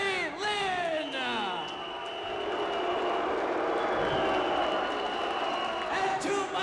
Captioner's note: whistle blowing; crowd booing